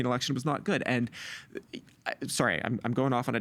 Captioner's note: stammering